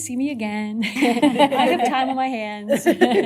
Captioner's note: laughter